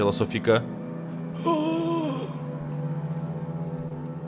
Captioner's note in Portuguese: grunhidos